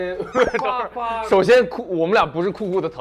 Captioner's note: holding back laughter